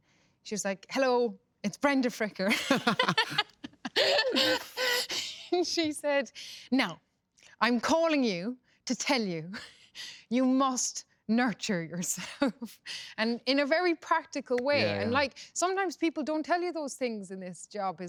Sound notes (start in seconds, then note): 2.5 both laugh